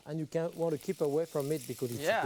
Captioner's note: pan sizzling